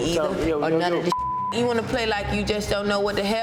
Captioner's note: overlapping chattering